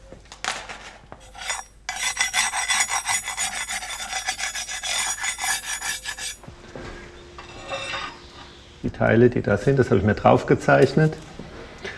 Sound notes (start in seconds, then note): 1.2 metal scratching